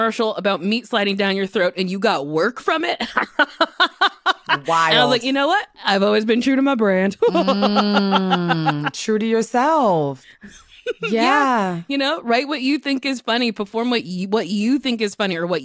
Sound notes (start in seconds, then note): 3.0 laughter